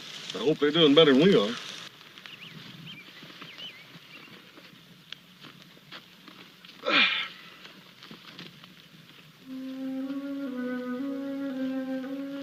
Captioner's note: groans